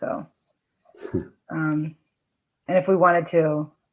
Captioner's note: laughs